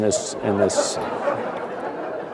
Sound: laughter

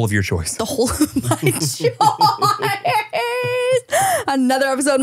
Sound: laughs

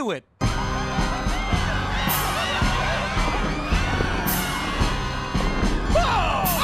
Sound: screaming

